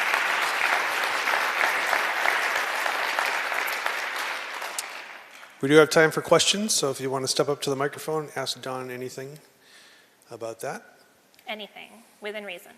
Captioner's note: applause